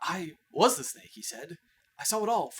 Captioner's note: none